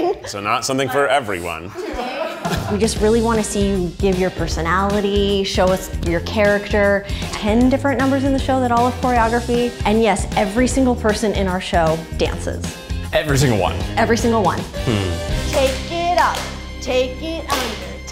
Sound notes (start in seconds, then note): 1.6 crowd laughing